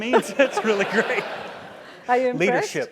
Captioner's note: laugh